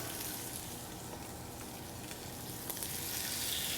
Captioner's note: sizzling sounds